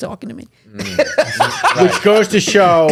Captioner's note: laughing